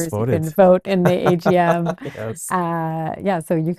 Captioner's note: laughs